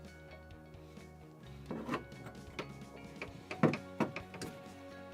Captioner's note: soft metallic clanking